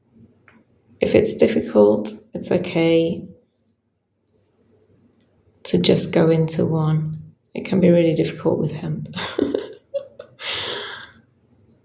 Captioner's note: chuckles